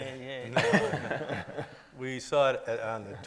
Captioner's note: everybody laughing